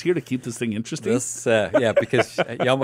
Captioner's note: laughs